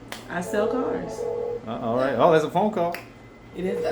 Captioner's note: phone rings